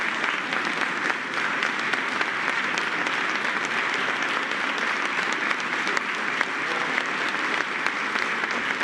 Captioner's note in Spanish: aplausos